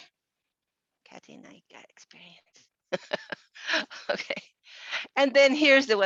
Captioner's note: laughs